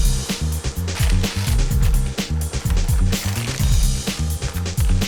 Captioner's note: paper bag crumples